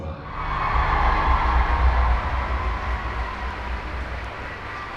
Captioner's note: audience cheering